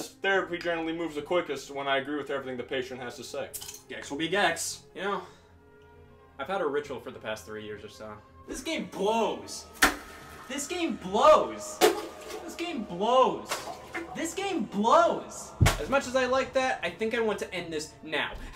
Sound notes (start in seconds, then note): none